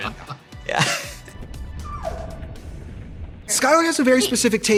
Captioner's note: dog whines